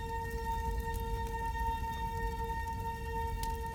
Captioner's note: fire crackling